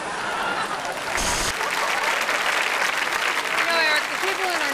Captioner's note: audience applauds